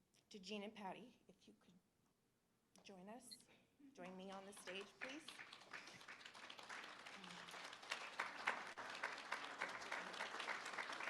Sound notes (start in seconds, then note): 5.6 applause